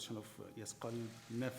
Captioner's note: speaking in foreign language